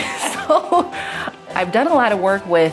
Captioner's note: laughs